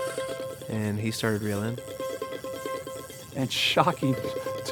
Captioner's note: reeling quickly